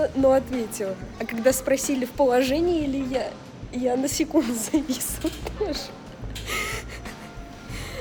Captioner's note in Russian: смех